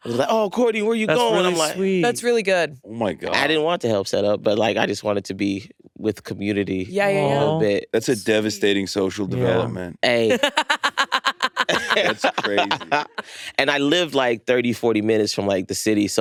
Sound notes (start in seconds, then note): 10.3 laughs; 12.9 all laughing